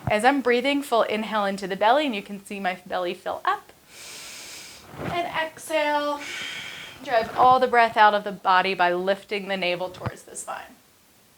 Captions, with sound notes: As I'm breathing full, inhale into the belly, and you can see my belly fill up (inhales) And exhale, (exhales) Drive all the breath out of the body by lifting the navel towards the spine.